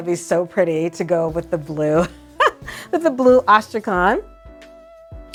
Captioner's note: laughs